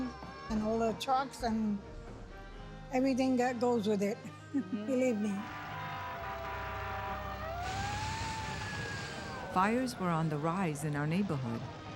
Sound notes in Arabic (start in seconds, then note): 4.4 يسخر; 5.2 صافرة الإنذار تدوي